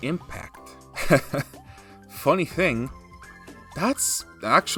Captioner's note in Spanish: Risas